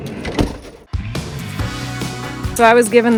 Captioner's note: door slams